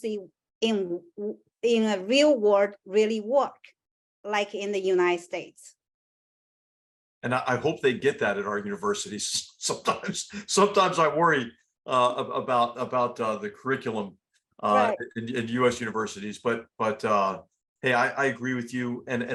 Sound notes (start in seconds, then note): 9.9 laugh